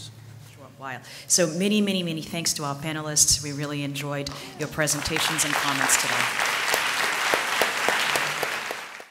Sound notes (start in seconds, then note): 4.8 applause